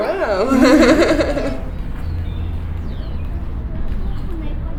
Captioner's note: laughing